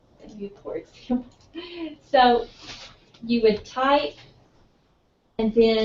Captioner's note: laugh